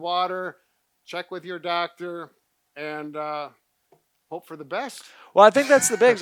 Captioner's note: laughing